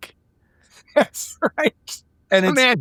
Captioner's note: laughing